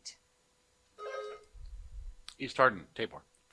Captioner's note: buzzer buzzing